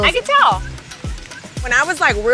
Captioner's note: birds chirping